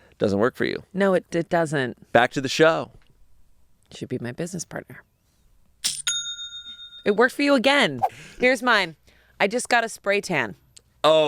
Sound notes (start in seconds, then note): 6.0 cash register rings